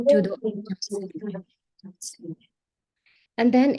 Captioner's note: speaker audio stuttering